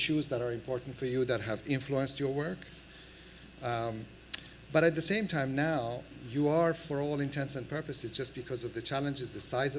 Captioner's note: none